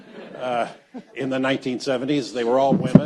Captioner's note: audience laughs